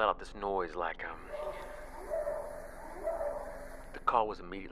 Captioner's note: animal sound